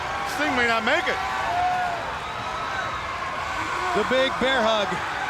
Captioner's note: crowd cheering